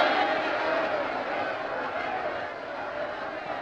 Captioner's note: crowd shouting